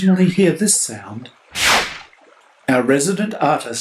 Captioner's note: swish